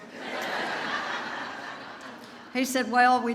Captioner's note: audience laughs